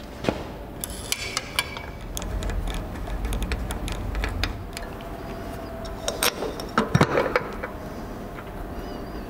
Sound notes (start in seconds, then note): 2.0 working noises